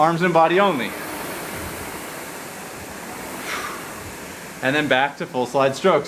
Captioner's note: rowing machine whirring